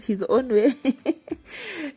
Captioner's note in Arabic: يضحك